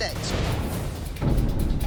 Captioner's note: slamming sound